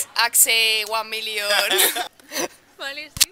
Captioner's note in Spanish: risas